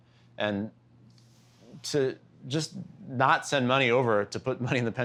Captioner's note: laughter